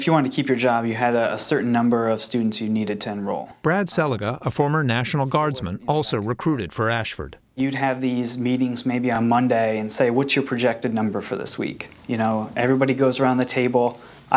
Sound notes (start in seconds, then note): 4.1 voice-over